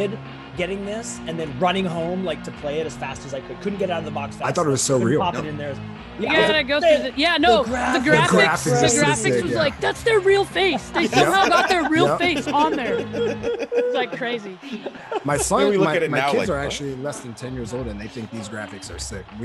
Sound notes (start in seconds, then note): 11.0 laugh